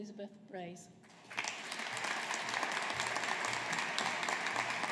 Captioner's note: audience applauding